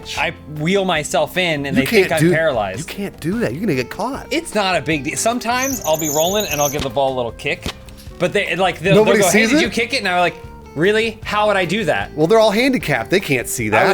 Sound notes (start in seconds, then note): 5.2 wheels squeaking